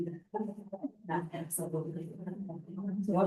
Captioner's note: board members chattering indistinctly